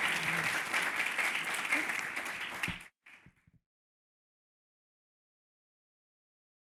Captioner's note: applause